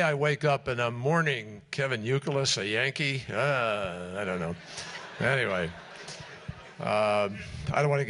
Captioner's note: laughter